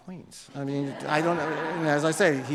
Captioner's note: audience laughs